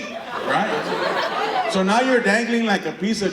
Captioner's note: audience laughter